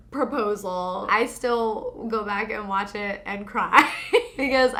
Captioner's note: laughs